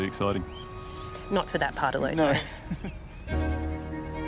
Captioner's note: laughs